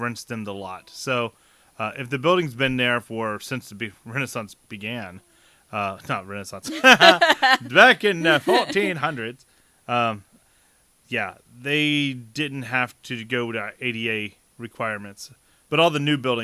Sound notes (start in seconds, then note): 6.6 laughter; 7.2 old Time Voice